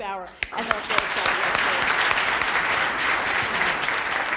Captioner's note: audience applauds